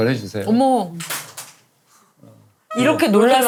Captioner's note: clanging